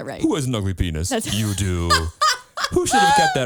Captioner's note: laughs